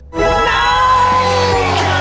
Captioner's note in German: wütend